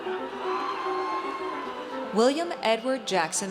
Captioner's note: audience cheers